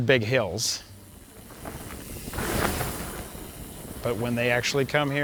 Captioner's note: bike riding past